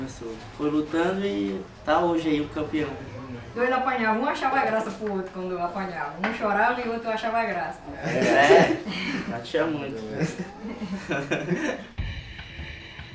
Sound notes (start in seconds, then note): 8.0 laughs